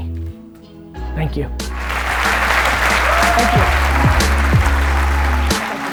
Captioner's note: audience applause